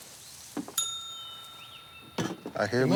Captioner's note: ding